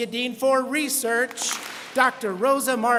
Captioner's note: students clap